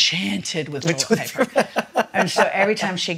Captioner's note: laughs